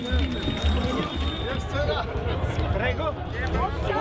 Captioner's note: chattering